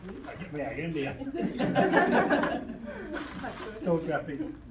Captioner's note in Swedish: Skratt